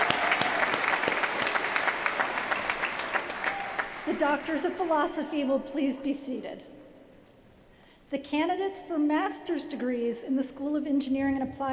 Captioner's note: cheers & applause